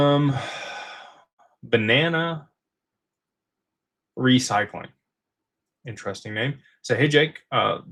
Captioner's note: sighs